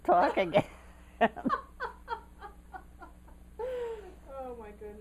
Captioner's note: laughter